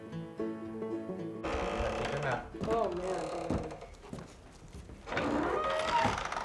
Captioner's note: door creaking, inaudible